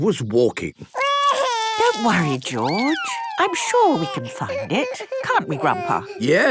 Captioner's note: George wailing